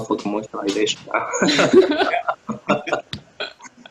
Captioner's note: laughter